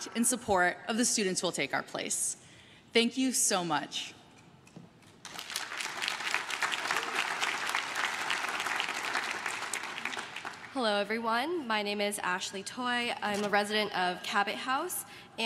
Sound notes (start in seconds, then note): 5.2 crowd claps